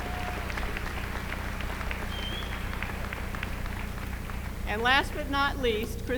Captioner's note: applause